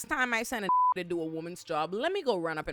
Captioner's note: beep